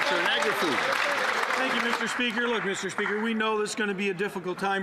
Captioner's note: some Applause